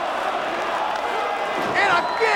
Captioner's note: crowd vocalizing; foot slaps